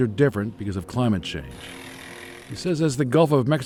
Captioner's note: motor rattling